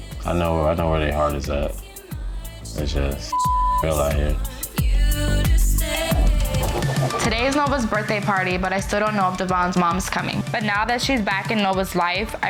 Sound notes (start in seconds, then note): 3.3 beep; 5.1 upbeat pop music